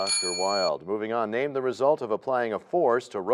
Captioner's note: bell rings, time expires